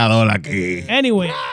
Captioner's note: speaking In Foreign Language